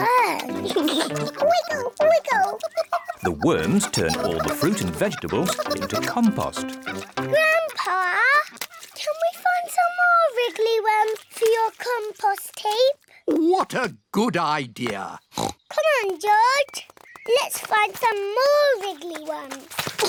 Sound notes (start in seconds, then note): 0.3 giggles; 15.3 oinks